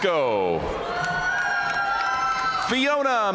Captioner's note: audience cheering and applauding